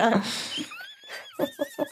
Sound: laughing

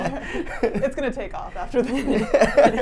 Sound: laughs

